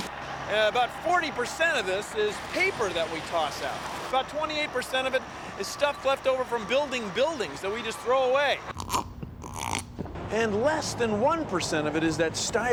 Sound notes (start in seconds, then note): 9.3 slurping